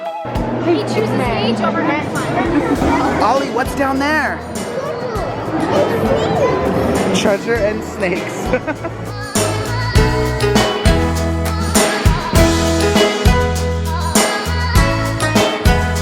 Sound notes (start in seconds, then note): 8.3 chuckles; 9.8 upbeat music